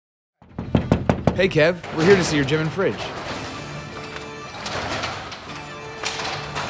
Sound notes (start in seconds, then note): 0.4 knocking; 3.9 upbeat music